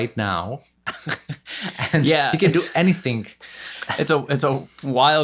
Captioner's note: laughs